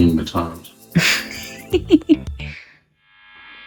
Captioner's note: laughter